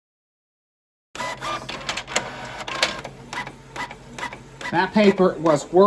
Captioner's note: document printing